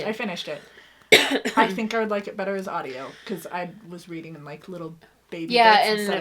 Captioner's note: coughs